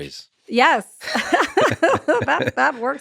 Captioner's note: Lex and Anna laughing